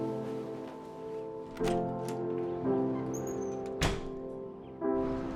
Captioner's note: door opens and closes